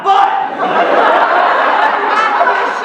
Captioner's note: laughter